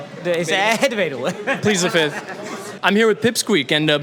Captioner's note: laughs